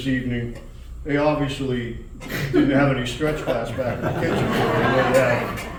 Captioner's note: laughter